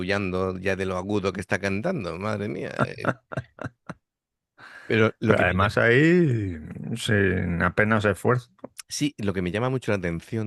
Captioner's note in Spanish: risas